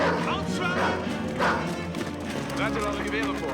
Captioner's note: dog barking